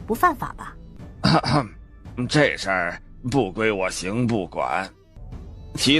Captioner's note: cough